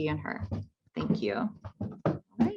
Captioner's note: footsteps thumping